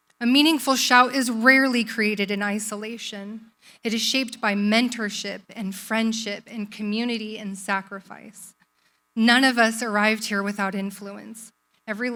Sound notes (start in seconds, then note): none